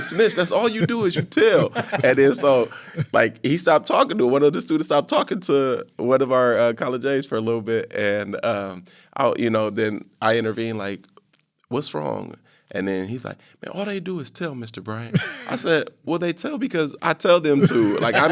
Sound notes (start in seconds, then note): 0.0 laughing; 15.1 laughing; 17.6 all laughing